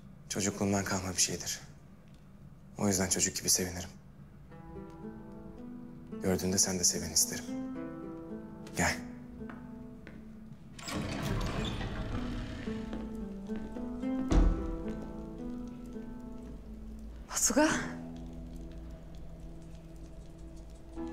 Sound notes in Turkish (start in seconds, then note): 10.7 Kapı sesi